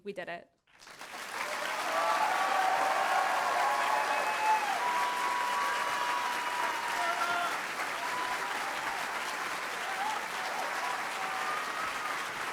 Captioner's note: applause